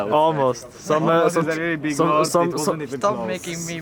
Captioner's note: group chatter overlapping